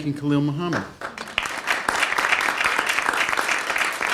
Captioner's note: applause